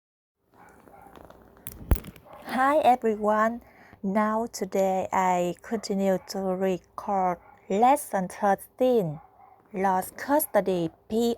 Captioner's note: crack crack